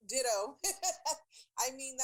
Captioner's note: chuckling